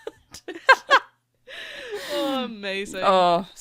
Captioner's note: laughter